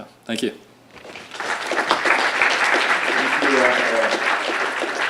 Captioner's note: audience applauds